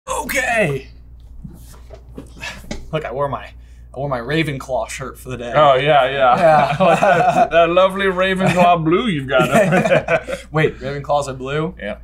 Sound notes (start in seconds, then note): 6.3 laughs